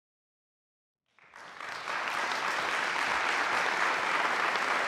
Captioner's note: audience clapping